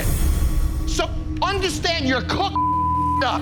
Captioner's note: beep